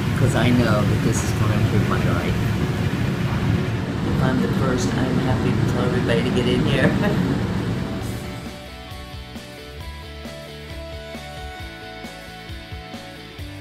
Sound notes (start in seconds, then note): 6.8 laughs; 7.9 upbeat music